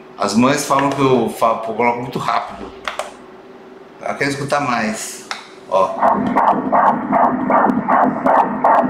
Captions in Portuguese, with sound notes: As mães falam que eu coloco muito rápido. Elas querem escutar mais... Olha... *batidas do coração*